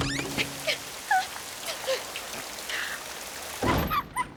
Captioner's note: door opens; rarity whimpering; door closes